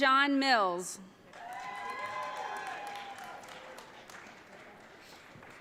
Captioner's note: audience cheering